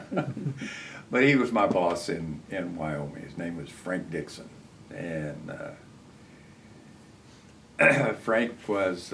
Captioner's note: laughs